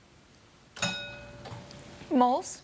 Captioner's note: bell dings